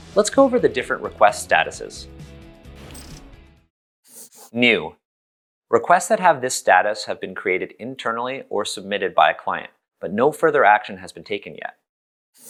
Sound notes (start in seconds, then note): 4.1 pencil scribble